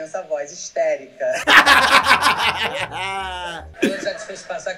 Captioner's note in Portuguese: riem